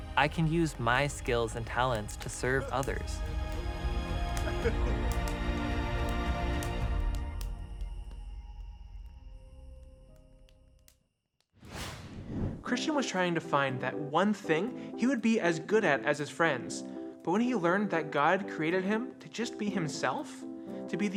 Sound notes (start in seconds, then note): 3.5 inspiring music; 5.6 fire crackling